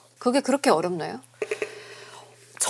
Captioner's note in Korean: 심호흡